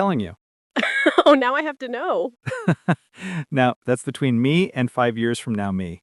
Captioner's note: laughing